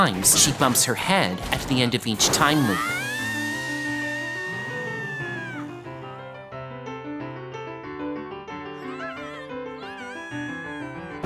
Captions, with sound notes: she bumps her head at the end of each time leap. (Makoto screaming) (boys gasp in amazement) (Makoto yelling, screaming)